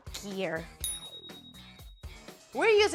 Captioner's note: ding